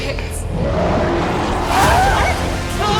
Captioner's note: creature roaring; Jed screaming